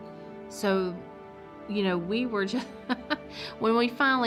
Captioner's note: laughs